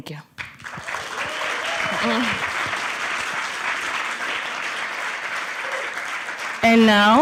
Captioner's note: applause